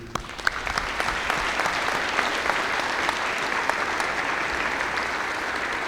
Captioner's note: applause